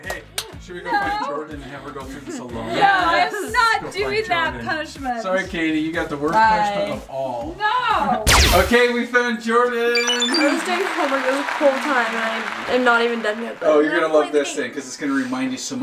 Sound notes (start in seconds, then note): 0.0 claps hands; 8.2 lasers swooshing; 9.9 high-pitched beeps; 10.0 applause